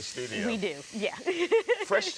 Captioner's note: laughs